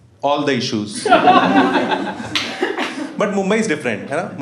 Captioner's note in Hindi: हँसना